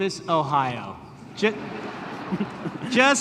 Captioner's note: laughter